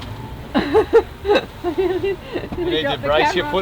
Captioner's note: laughing